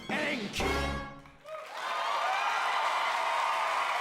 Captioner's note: audience cheering